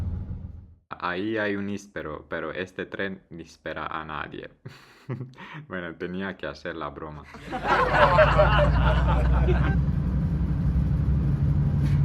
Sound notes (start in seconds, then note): 9.9 laughs